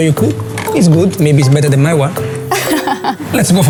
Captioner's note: laughs